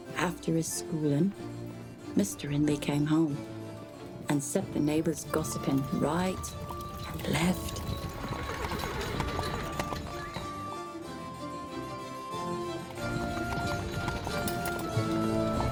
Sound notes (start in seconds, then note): 6.4 horse whinnying; 10.0 upbeat music